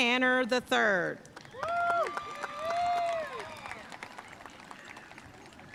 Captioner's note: audience cheering and applauding